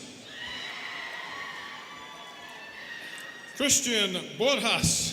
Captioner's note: students cheering